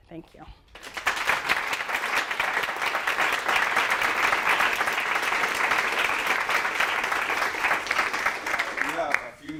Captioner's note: applause